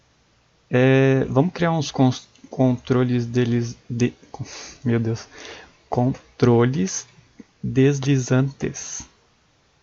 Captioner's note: mispronouncing